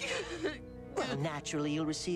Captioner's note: sobbing